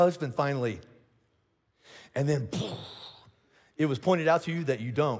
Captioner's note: vocalizes explosion